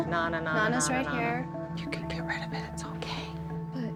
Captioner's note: whispering